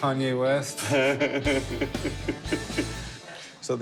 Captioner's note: laughing